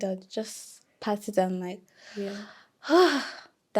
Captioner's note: sighing